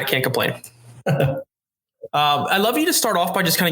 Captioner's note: chuckles